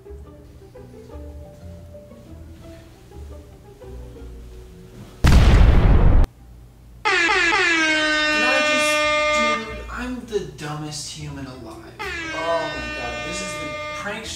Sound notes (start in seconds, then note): 5.2 explosion; 7.0 airhorns